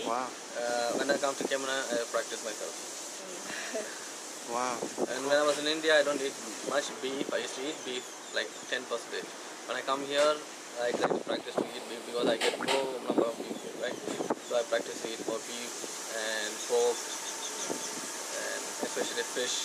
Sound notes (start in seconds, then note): 3.4 laughs; 11.9 wind blows